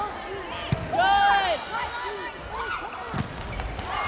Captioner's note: players yelling